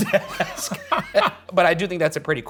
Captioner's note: laughing